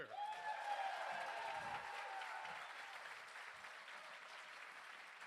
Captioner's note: crowd cheering and applauding